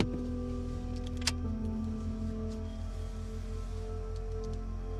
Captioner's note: car key clicks; switch clicks